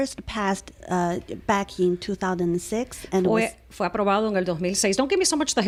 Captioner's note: Hablando ingl\s